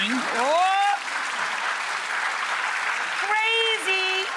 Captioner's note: audience applauds